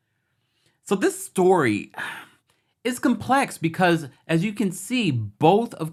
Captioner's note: sighs